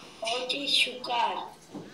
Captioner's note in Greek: μιλάει ρομανί